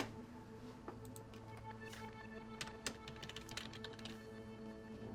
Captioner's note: keys striking; soft dramatic music